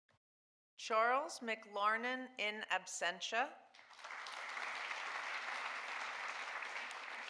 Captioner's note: audience applauding